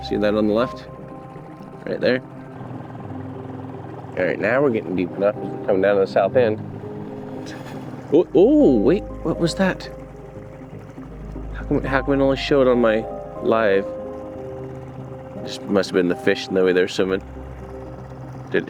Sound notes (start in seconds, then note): 3.0 boat motor hums; 7.5 sonar buzzes